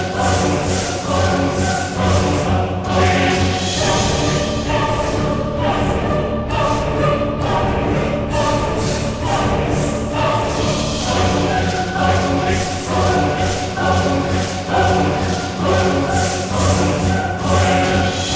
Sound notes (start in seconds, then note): 1.3 horn